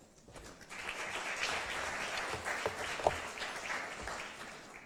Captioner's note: applause